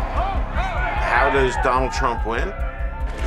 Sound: crowd shouting; crowding cheering

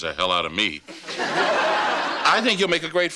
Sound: audience laughing

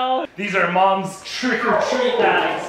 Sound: laughing

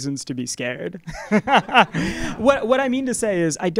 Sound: laugh

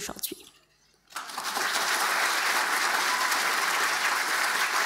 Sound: audience applauding

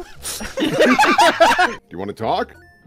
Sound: laughter

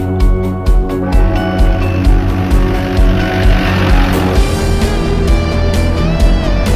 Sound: jeep engine revving

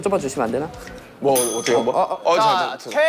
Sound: bell sound to change the roles

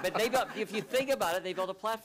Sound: laughter

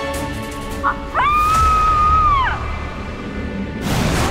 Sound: screams

